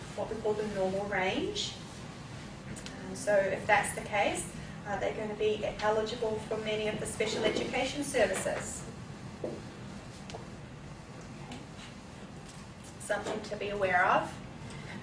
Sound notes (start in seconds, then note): none